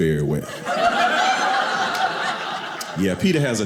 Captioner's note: audience laughing